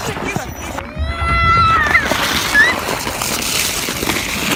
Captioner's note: joyfully screams in Russian